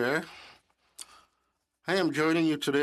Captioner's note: speaking in French